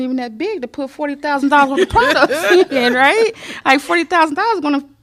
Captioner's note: laughter